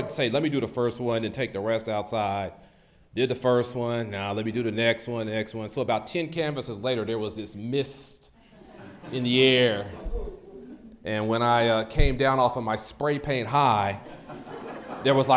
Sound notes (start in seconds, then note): 8.4 audience laughs